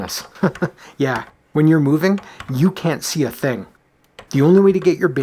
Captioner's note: chuckles